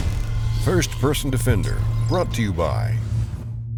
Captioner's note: voiceover